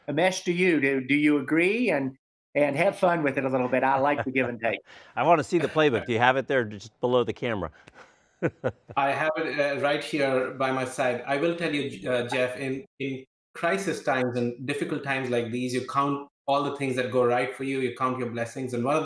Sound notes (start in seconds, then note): 8.4 laughing